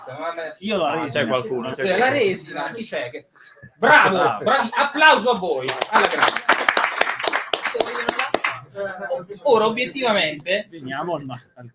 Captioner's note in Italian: Applauso